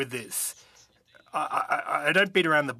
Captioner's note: speaking French